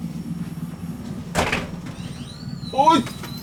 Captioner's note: the sound of opening the veranda door